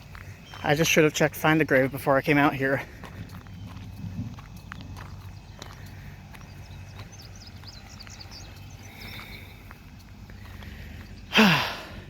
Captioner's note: birds singing